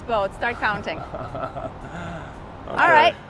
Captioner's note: chuckling